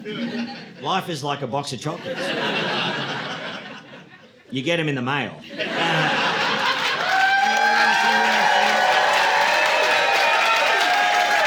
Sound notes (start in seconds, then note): 5.5 audience laughing; 7.5 audience cheering